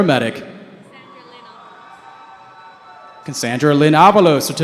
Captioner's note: cheering